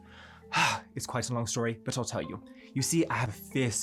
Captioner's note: sighs